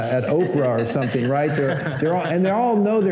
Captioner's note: laughter